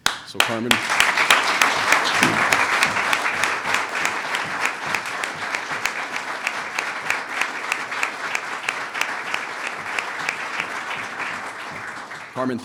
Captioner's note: applause